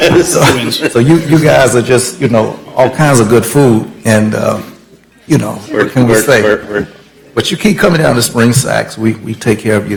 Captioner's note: laughter